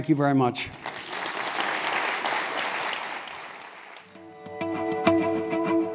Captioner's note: applause